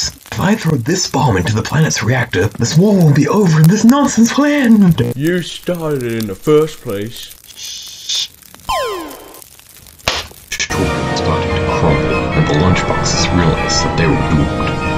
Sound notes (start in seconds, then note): 7.5 shushing